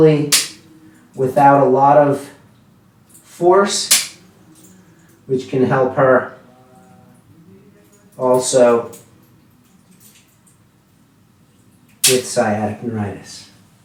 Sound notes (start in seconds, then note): 0.4 gadget clicking; 3.9 gadget clicking